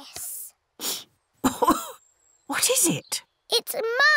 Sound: sniffs and coughs

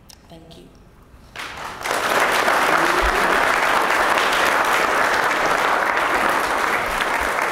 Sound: applause

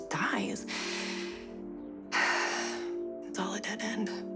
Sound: sighing

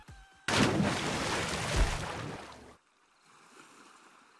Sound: water splashes

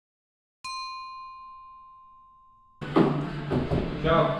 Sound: bell dinging

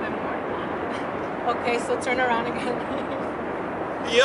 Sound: giggles

